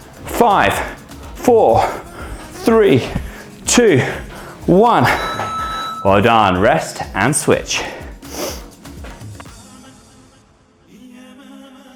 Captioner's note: snorts